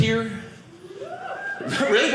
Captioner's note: audience member cheering